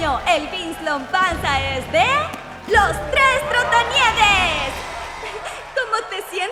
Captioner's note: crowd cheering